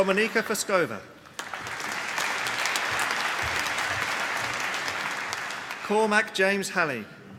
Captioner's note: applause